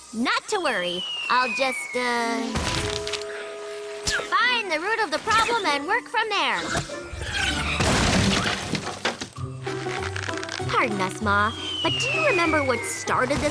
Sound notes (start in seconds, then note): 7.7 crash